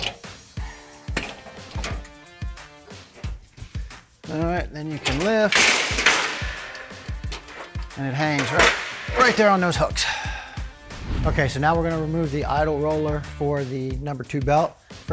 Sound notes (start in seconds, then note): 0.1 roller clanks; 4.8 conveyor clanks